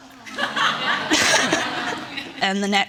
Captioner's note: audience laughing